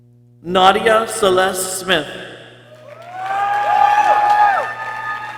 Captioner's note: people cheering